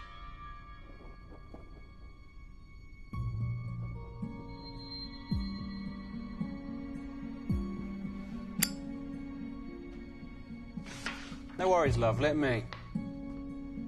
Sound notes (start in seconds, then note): none